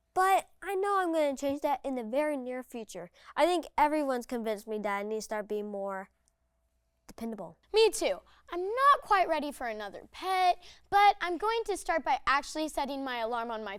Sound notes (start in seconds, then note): none